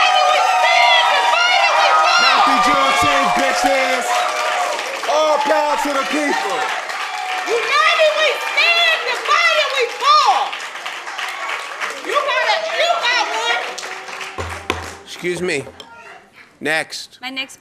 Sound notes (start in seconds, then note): 9.1 applause; 10.9 cheers; 12.4 applause; 12.9 cheers